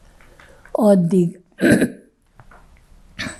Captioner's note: clears throat